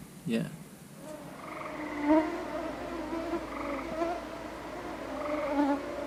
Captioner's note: mosquitoes buzzing